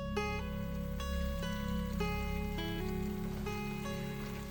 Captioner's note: slow gentle bright music; water sloshing